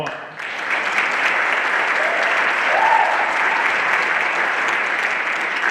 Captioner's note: everyone applauding